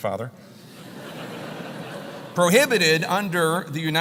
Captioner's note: laugh